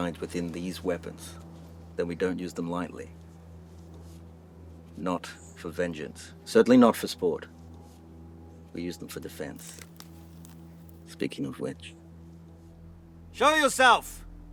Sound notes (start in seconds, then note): 9.4 twigs breaking